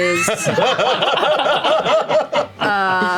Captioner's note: laughter